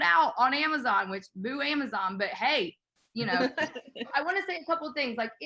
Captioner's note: laughing